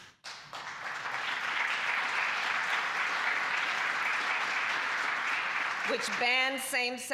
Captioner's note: applause